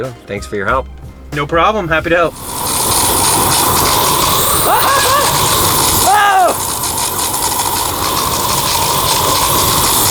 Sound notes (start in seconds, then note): 2.2 blow torch blazing; 4.6 laughs